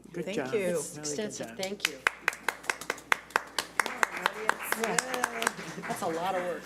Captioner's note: applauding